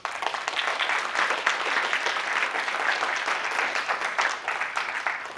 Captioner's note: applause